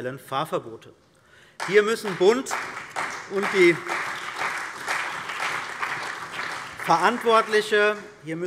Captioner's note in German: Beifall bei der CDU und dem BÜNDNIS 90/DIE GRÜNEN